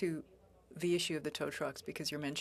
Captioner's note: speaking FRENCH